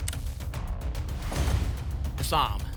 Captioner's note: thump; whoosh